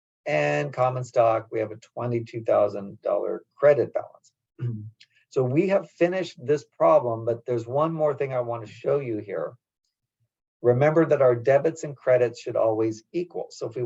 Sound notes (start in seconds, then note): 4.6 cough